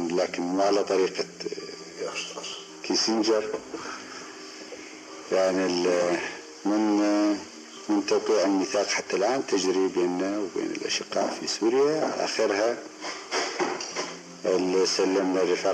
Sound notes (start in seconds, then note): 4.3 speaks with a Palestinian accent